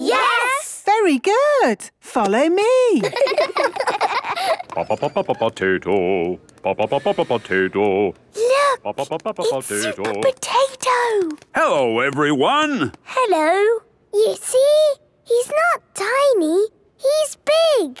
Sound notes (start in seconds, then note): 3.0 children laughing; 4.8 sing-song voice; 8.4 hushed